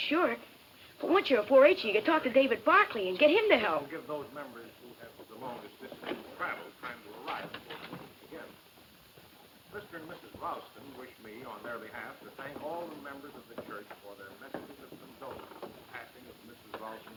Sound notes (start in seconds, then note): 3.8 person speaking off mic